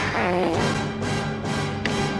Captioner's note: fart sound